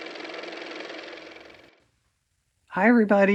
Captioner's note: car motor